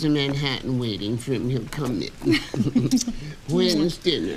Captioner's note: both chuckle